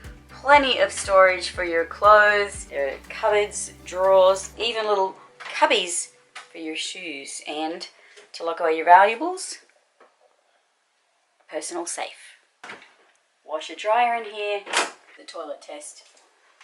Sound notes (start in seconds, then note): 12.8 door opens; 14.5 door closes